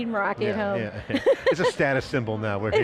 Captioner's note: laughing